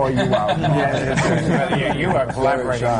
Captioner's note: laughter